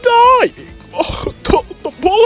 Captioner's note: coughing and spluttering